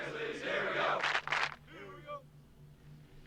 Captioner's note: clap clap